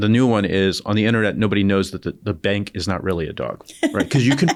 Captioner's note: laughter